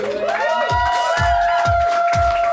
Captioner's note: audience cheers; upbeat music